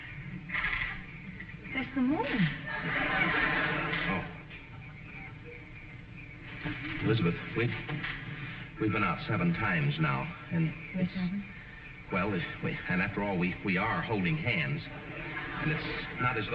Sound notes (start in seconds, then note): 2.6 audience laughing